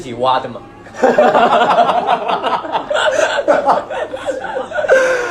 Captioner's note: gremlin laughter